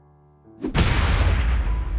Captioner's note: loud thud